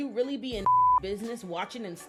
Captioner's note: beep